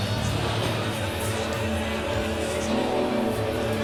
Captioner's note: crowd talking